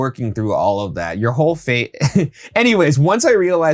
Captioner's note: chuckles